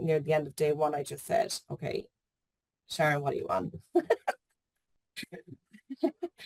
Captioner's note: giggles